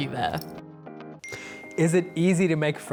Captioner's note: ping